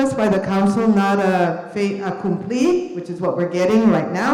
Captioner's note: speaks a foreign language